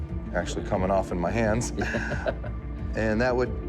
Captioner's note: laughs